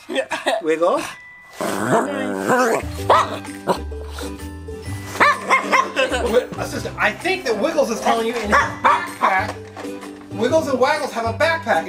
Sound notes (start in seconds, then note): 0.0 assistant laughs; 1.6 Wiggles barks then growls; 5.1 assistant laughs; 8.0 Wiggles barks